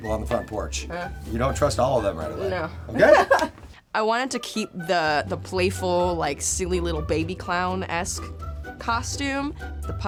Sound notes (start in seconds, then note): 2.9 chuckles